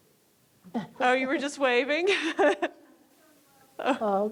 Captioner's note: laughs